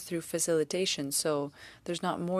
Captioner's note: speaking French